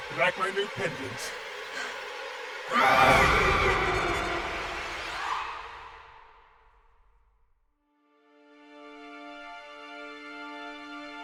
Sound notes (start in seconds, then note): 2.6 Tilly screaming; 8.3 dramatic music